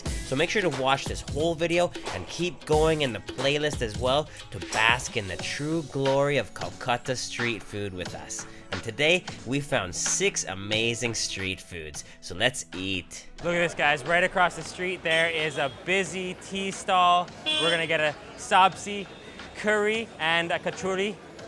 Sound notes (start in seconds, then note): 17.4 horn honking